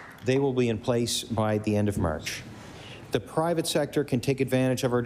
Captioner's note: applause